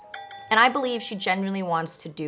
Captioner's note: dings